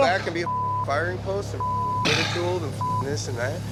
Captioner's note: beep